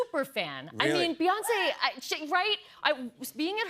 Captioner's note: crowd cheers